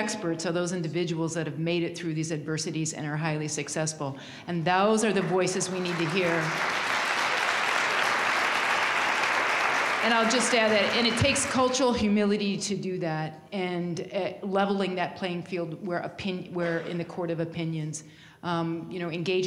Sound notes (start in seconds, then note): 8.4 applause